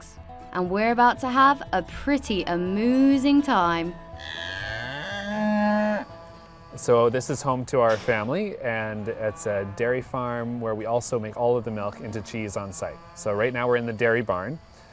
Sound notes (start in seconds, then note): 3.9 cow moos